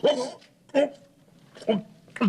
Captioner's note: swallowing